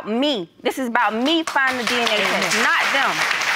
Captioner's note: audience applauding